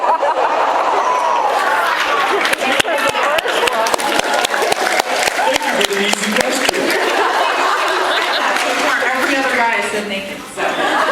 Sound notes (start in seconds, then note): 0.4 laughs, applauds; 4.0 applauds; 6.2 laughs; 6.6 applauds; 10.4 laughs